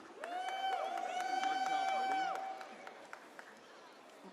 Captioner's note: audience cheers